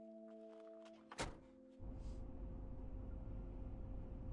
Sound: door closes; road noise rumbles

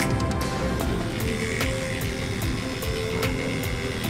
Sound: buzzing

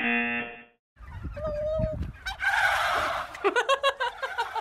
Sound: buzzer; imitates turkey call; turkeys gobbling

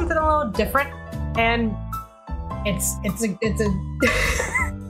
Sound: wheeze

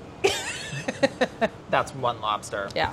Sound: laughs

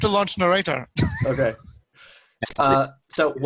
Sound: laughs

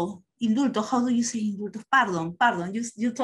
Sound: non-english speech

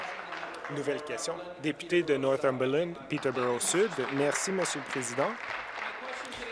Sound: some Applause

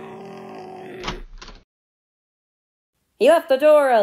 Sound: beautiful Humming; door Opens but doesn't close

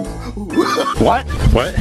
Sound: laughter

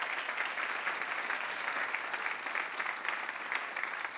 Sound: applause

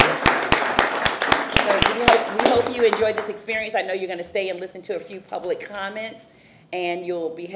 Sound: applause

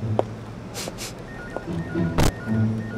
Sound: sniff sniff

